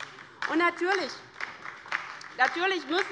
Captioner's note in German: Beifall bei der LINKEN